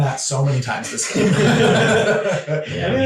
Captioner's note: all laughing